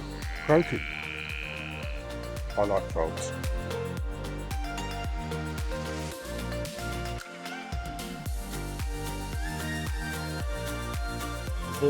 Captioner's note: frog noises